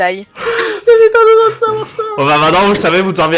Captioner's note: laugh; laughing